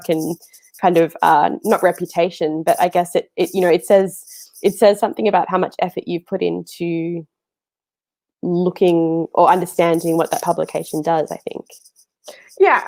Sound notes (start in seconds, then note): none